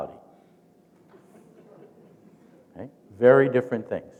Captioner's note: chuckling